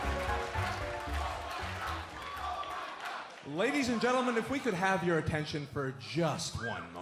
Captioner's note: fans chanting